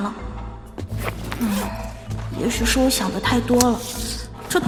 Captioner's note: unzipping bag